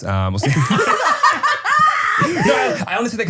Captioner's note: everybody laughs